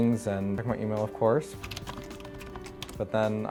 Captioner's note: fingers typing